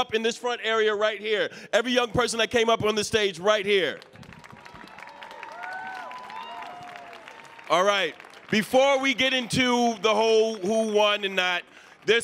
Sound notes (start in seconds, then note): 4.3 audience cheering